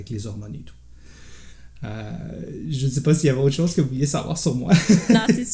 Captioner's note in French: rires